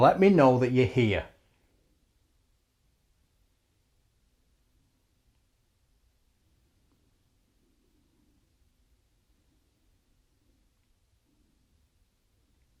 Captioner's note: silence